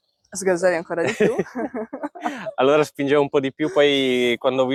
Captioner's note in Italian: risate